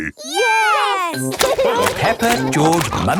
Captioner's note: laughing